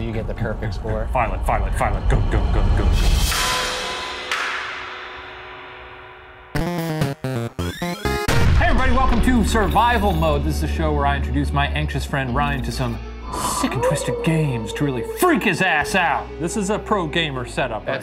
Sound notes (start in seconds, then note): 3.4 intense creepy music; 6.5 upbeat classic video game effects